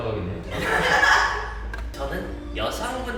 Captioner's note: bursts into laughter